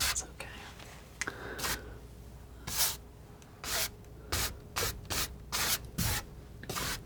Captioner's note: scratching